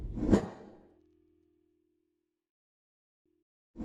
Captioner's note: air whooshing